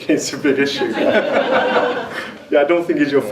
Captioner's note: audience laughs